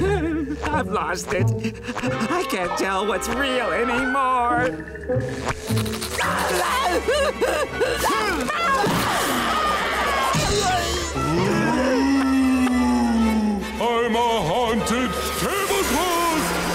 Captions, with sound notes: I've lost it. I can't tell what's real anymore. [groaning] [moaning] I'm a haunted tablecloth.